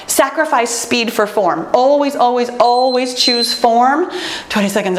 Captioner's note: timer beeps